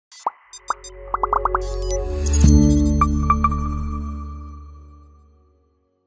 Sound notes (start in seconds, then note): 0.5 graphic poppings; 2.3 dramatic electronic music